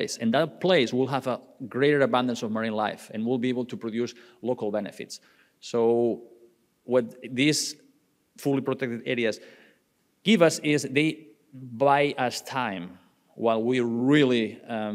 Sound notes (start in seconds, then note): none